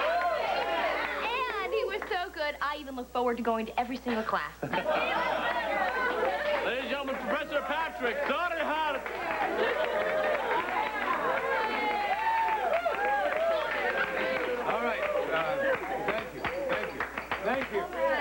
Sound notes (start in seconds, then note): 7.3 cheers